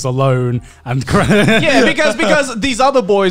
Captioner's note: laughing